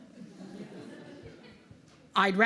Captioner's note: laughter